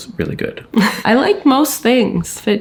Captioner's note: chuckling